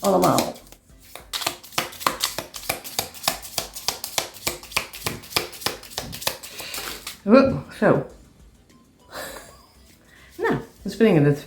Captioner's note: laughs